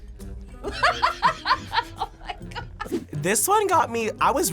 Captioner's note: laughs